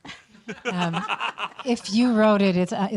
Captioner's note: laughing